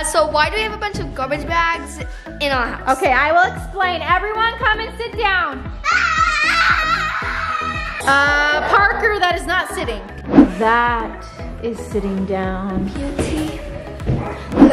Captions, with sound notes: - So why do we have a bunch of garbage bags in our house? - Okay, I will explain. Everyone, come and sit down. (excited screaming) Parker, that is not sitting. That is sitting down. - Beauty, love--